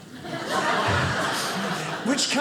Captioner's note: audience laughing